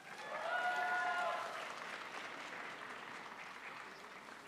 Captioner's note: crowd applauds